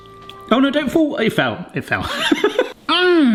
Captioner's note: laughs